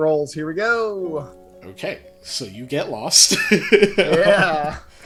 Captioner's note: laughs